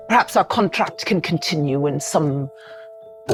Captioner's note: none